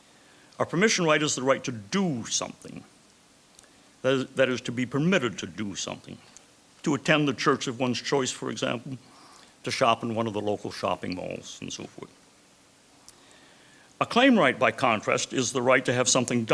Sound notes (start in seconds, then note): none